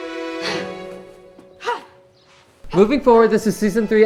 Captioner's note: exhaling